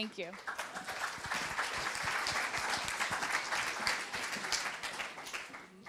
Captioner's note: applause